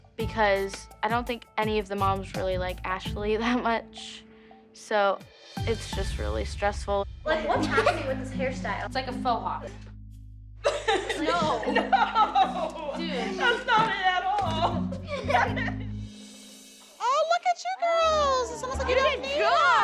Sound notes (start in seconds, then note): 10.6 laughter; 10.6 laughing; 14.8 laughter